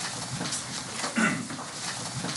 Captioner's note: clears throat